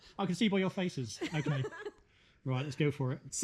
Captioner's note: giggling